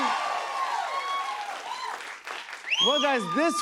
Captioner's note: cheers and applause